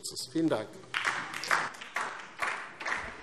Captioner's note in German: Beifall DIE LINKE